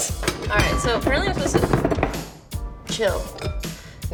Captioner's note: bowl rattles